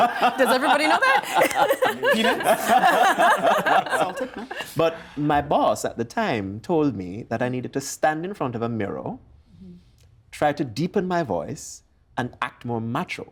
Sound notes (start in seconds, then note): 2.5 all laughing